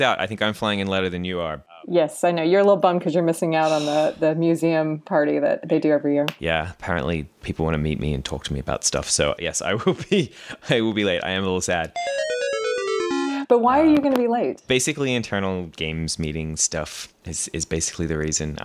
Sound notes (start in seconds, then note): 11.9 game over tone